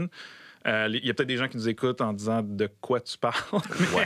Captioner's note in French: rires